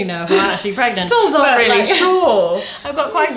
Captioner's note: laughs